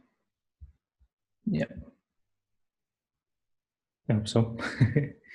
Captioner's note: chuckle